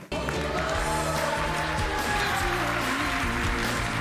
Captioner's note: audience applauds